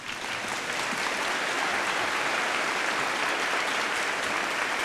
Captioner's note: applause